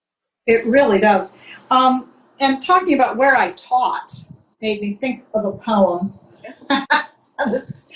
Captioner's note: laughs